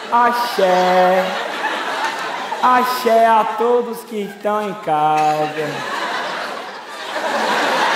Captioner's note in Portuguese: sotaque baiano, devagar